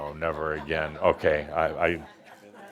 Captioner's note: some laughter